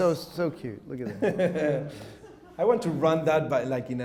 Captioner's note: chuckles